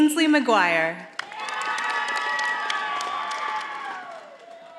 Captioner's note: audience applauding